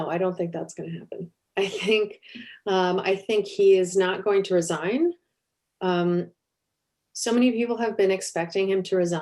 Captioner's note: chuckle